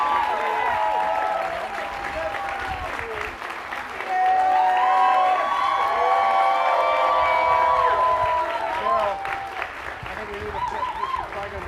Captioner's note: cheers and applause